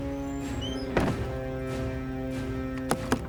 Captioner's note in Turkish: Kapı kapanma sesi